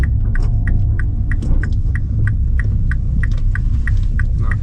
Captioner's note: engine rumbling